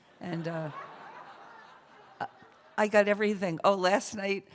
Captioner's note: laughter